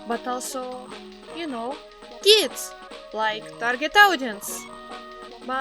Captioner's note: none